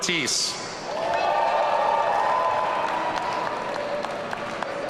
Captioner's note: audience cheering